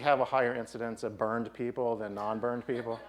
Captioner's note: laughing